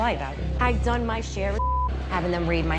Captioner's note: beep